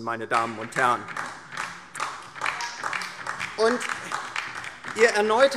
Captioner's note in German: Beifall DIE LINKE